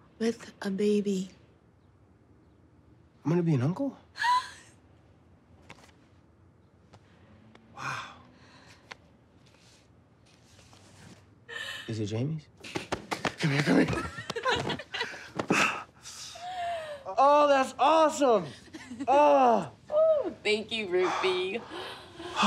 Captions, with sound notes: With a baby. I'm gonna be an uncle? (Maddie exclaims) Wow. Is it Jamie's? Come here, come here. (laughing) Oh, that's awesome. Oh! Oh, thank you, Rufie.